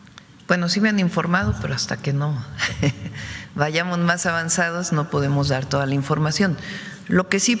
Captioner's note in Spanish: risas